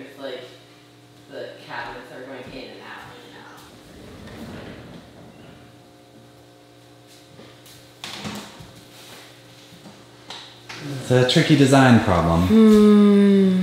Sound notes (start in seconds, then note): 3.6 wheels smoothly rolling